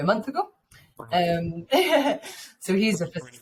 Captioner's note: chuckles